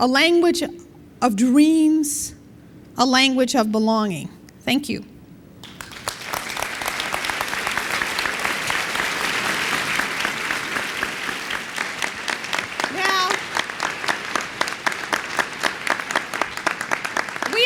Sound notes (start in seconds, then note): 5.6 applause